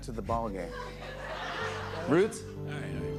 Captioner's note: laughter